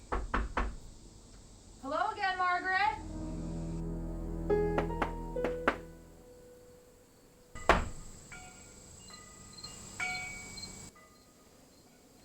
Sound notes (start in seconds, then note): 0.0 knocks on door; 4.7 knocks on door; 7.8 wind chimes ring